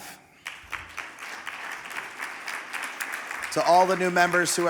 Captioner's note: audience applauding